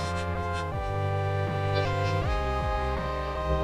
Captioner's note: crying; sobbing